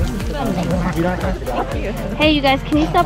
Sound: dogs growling; upbeat music continues

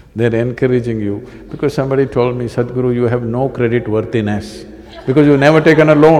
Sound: few Laugh

